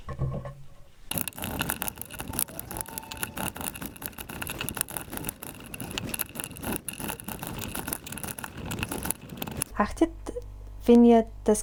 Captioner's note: cutting noise